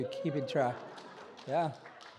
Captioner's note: audience cheers